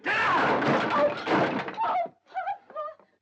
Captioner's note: chair smashing